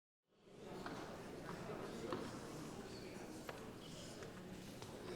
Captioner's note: indistinct chatters